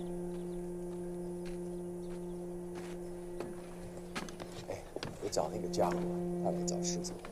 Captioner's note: speaks Mandarin